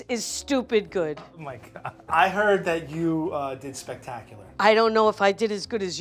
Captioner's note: chuckles